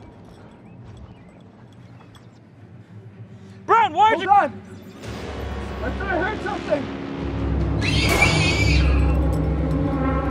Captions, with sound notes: Brown, why aren't you- Hold on. I thought I heard something. [shriek followed by gunshot]